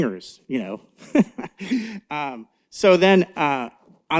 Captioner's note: laughs